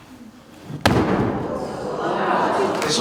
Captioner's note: crowd awing